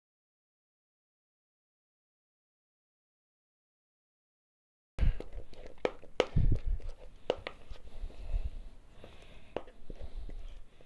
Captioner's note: silence